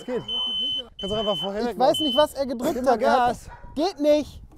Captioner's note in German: Elektronisches Piepen